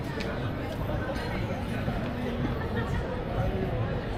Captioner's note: people chattering